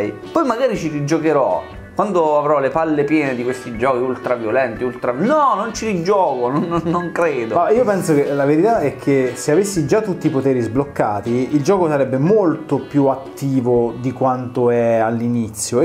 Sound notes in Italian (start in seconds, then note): 6.4 ridacchia